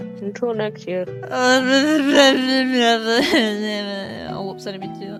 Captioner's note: unintelligible crying noises